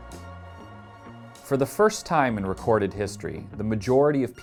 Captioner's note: voiceover